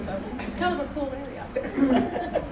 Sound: chuckles

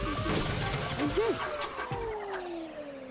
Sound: machine powers down

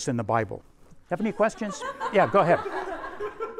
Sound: students laugh

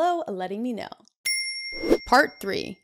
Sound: notification bell ringing

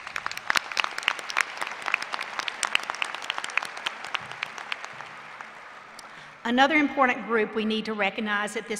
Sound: applause

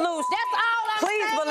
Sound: beep

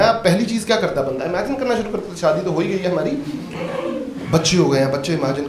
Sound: audience laughs

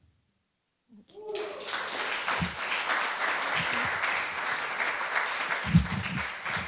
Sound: applause

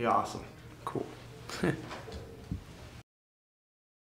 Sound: laughs

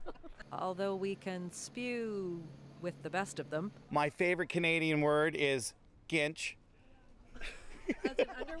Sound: laughter

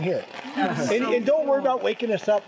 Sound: chattering

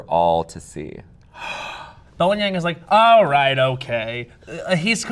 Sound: gasps

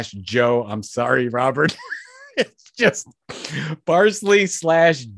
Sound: laughs

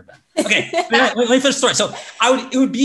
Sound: laughs

